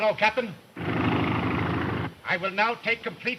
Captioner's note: plane engine rumbling